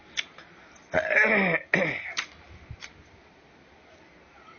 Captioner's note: cough; clears throat